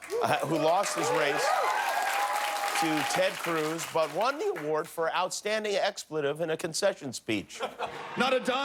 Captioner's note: cheers and applause